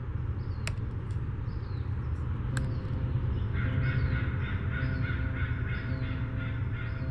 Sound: tab clicks; soft music

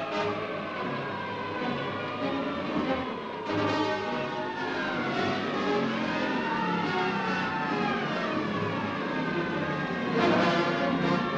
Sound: train whistle blowing

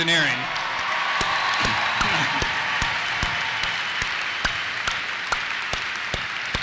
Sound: applause; cheers

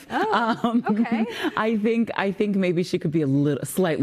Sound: laughter

